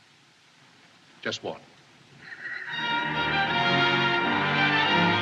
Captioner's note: laughing